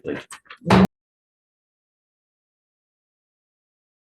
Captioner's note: gavel bangs